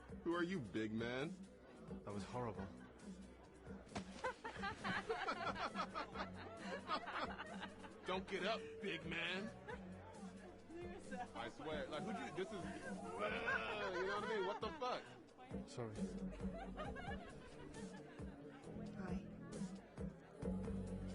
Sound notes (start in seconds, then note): 3.9 clothing rustling; 4.2 malicious laughter from group